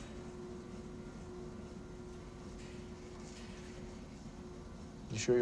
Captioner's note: elevator whirring